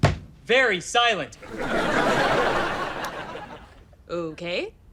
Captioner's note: audience laughter